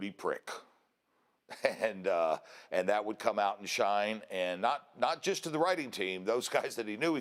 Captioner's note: laugh